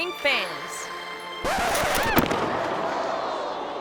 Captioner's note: skate clinks; record scratching; skater thuds